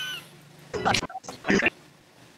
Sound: insert random ytp noises

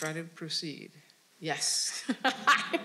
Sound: laughing

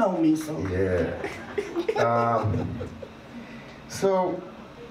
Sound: laughs

